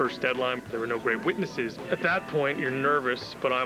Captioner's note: telephone rings